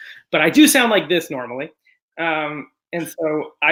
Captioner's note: normal voice